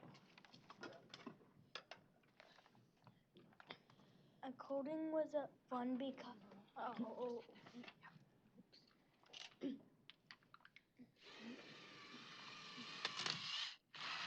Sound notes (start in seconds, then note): 11.2 whirring